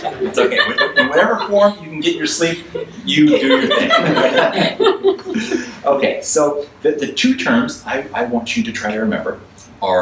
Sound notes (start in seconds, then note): 4.1 audience laughs; 5.0 laughs